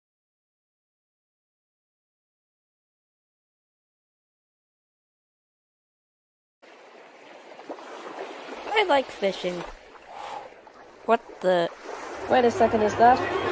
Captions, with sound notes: ⚠️ WARNING!! ⚠️ Do not attempt ANYTHING in this video relating to a tornado! TORNADOES ARE A LOT MORE DANGEROUS IN REAL LIFE!! I like fishing. (whoosh) What the? Wait a second is that?